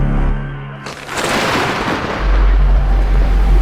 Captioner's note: ominous music swells; explosion